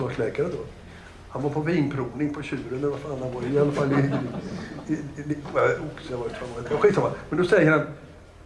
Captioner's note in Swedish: Skratt